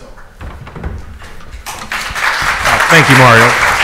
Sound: audience applauds

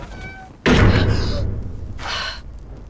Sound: door slamming; Grace gasping

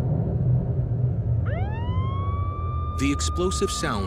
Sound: eruption; ambulance wailing

